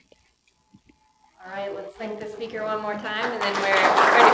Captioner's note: clapping